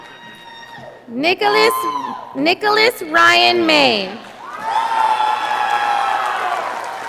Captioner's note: audience applauding